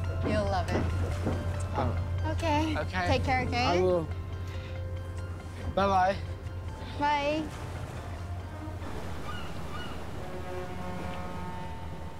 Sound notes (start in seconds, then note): 8.8 seabird caws; 9.9 horn blows